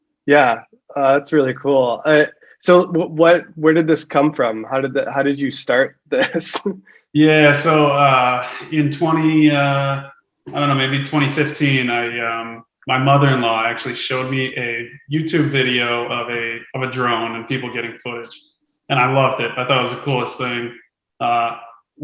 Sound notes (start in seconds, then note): 7.1 chuckles